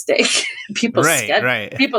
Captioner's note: laughter